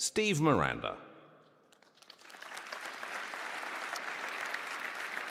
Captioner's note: applause